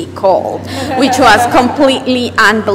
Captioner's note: laughter